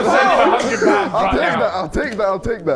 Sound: Sidemen laughing

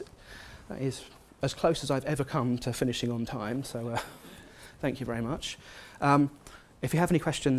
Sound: laugh

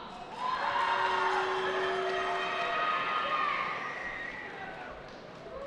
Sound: cheering

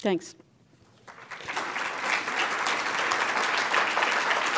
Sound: applause

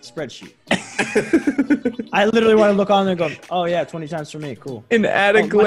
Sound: laugh

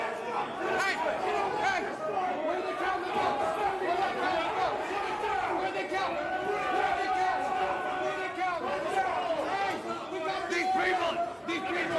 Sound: yelling

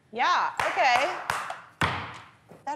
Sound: claps and bangs table

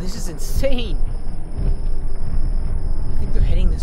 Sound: sirens and Rumbling

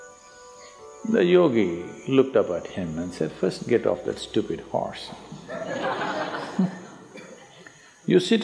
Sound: laughter

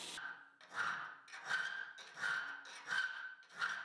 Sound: file scraping

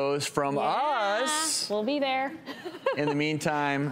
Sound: giggles

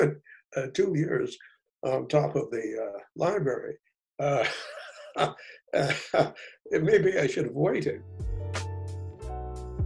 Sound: laughs

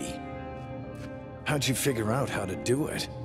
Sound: none

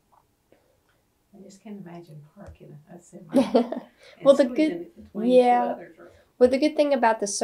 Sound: laughs

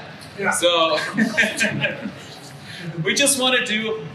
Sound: laughs

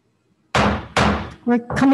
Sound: gavel banging

